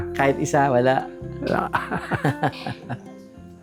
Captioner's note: laughs